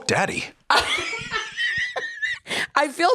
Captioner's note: laugh